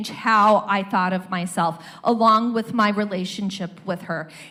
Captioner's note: none